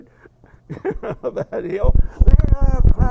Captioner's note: laugh